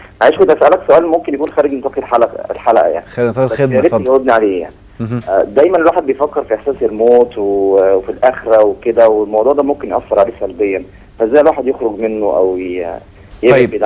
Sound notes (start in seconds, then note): 4.0 sarcasm!